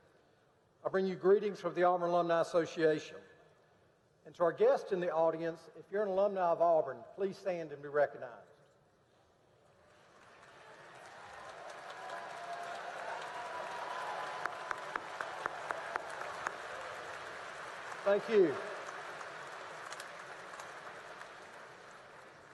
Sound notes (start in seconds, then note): 9.8 applause